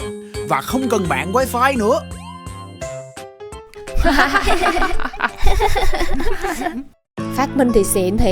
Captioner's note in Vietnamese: Tiếng cười